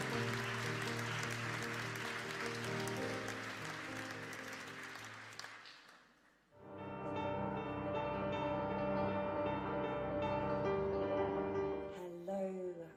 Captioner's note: applause